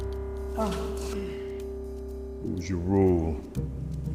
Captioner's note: Jimmy groans